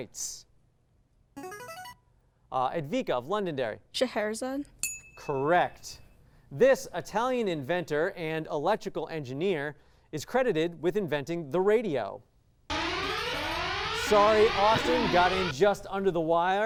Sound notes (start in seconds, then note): 0.7 signaling device tone; 4.8 ding; 12.7 echoing tone